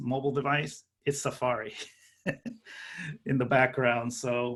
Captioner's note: laughing